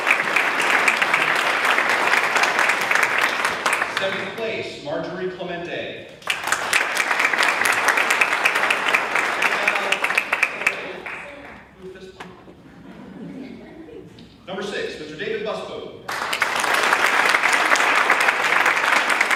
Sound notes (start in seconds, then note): 0.0 audience claps; 7.2 audience laughs; 12.0 audience claps